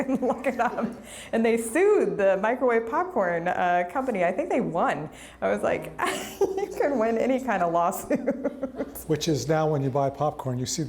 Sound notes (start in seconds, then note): 8.1 laughs